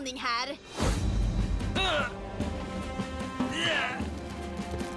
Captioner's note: grunting